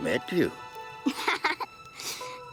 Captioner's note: laughing